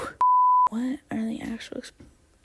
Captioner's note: sigh; quietly